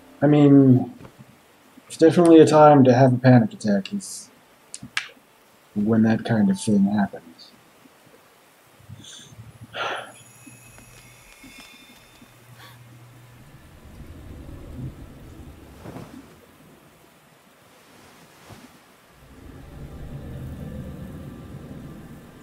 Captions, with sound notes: I mean... it's definitely a time to have a panic attack, is... When that kind of thing happens. [sighs] [Anne gasps]